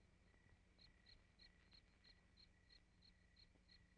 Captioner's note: insects chirping